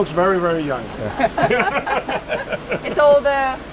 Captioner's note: everyone laughs